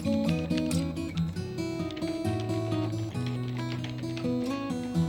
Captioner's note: computer keys clicking